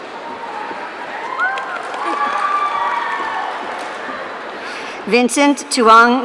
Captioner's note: audience cheering